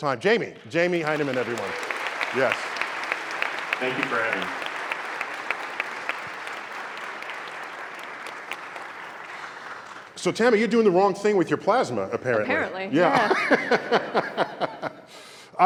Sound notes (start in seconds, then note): 5.5 applause